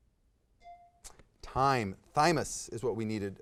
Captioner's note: timer